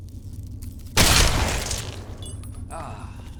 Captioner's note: gun firing